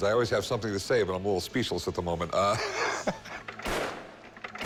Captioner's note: laughs